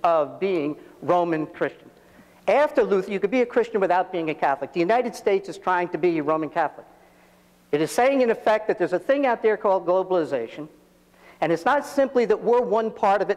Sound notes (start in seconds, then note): none